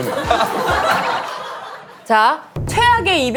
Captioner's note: hahaha